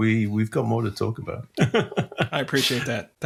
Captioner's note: laughs